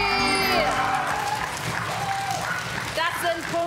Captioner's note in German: Jubel